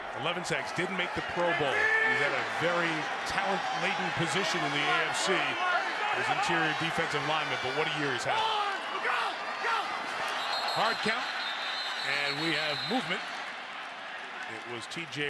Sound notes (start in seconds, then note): 9.2 football players yelling